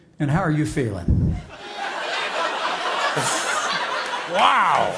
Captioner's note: laughter